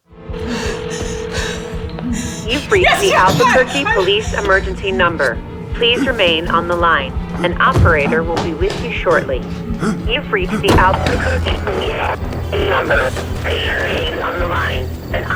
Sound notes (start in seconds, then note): 0.2 menacing music; 0.3 Carol panting; 11.2 phone static scratching